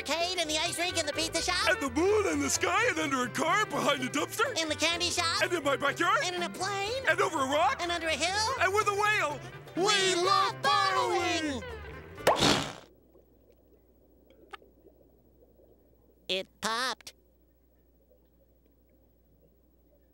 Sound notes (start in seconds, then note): 12.2 popping